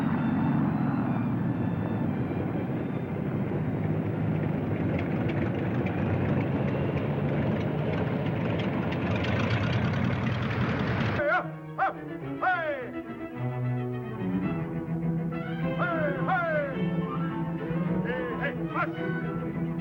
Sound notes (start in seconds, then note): 9.0 engine rumbling